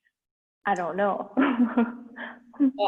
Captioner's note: chuckles